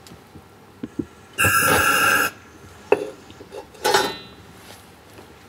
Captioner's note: hissing, metallic scraping